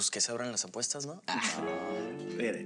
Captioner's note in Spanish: Risas